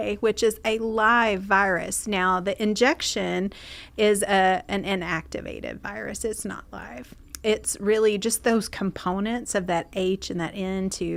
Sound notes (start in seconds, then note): none